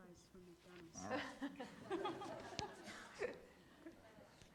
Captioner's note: audience laughs